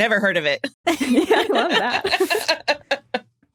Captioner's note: guests giggle